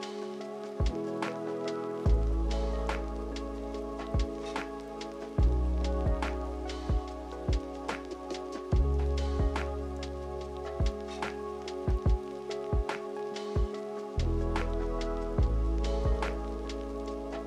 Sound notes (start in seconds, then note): none